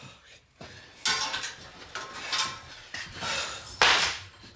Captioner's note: lock clanking